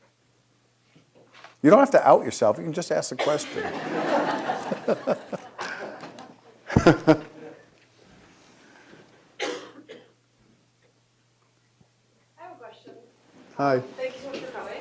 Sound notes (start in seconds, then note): 3.3 audience laughing; 3.8 laughing